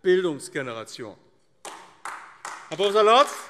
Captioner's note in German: Beifall AfD